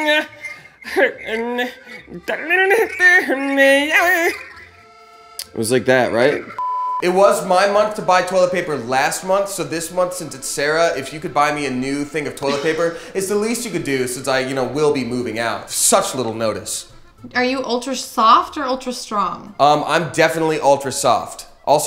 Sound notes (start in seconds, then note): 0.1 singing; 6.6 beep